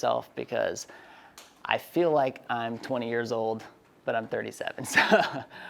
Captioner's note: laughs